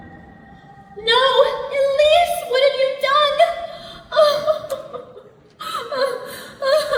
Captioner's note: cries